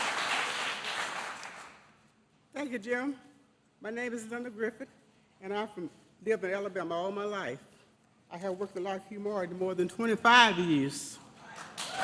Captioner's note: applause